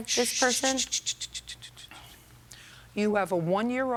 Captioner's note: shushes